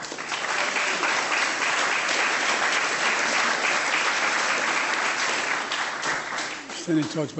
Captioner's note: applause